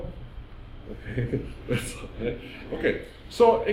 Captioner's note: laughing